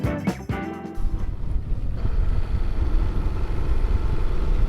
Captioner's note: engine rumbling